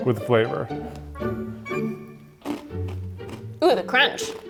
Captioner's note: curious music; Takis crunching